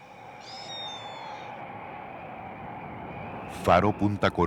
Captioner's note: wind